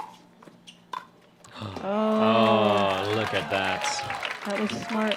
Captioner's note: applause